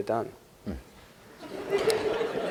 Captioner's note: laughter